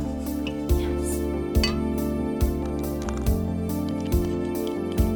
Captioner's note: bottles clink